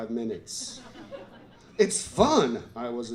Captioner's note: laughter